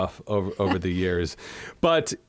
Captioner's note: laughter